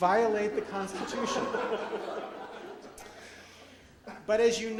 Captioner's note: audience laughs